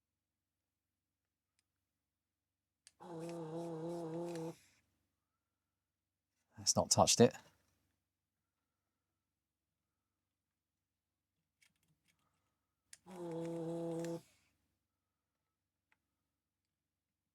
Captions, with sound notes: (Silence) It's not touched it. (Silence) (Silence)